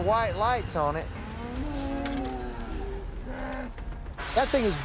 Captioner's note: mooing